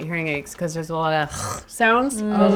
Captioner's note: gutteral sound